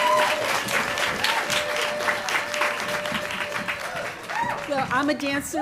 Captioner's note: applause